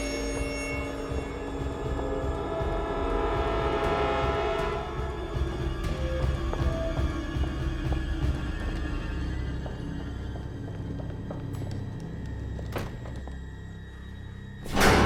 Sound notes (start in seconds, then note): 10.3 shoes tapping; 12.8 door clicks